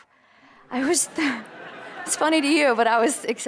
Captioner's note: audience laughter